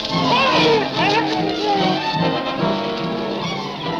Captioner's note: dramatic music; man screams; dramatic music continues